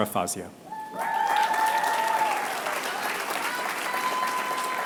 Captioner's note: applause